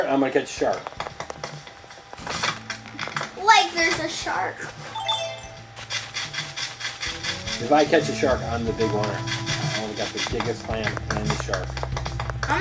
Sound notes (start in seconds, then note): 1.4 foot steps; 4.6 foot steps; 4.9 chime noise